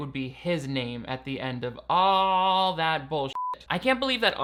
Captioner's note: beep